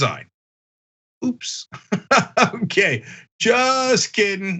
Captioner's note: laugh